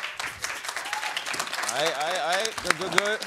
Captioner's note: applause